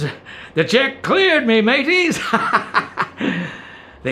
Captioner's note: laughs